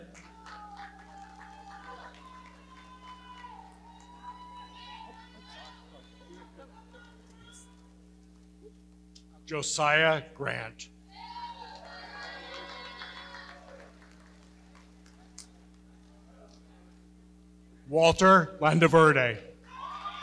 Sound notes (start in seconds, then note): 0.0 audience cheering and clapping; 11.1 audience cheering; 19.6 audience cheering and clapping